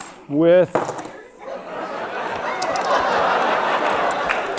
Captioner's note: laughter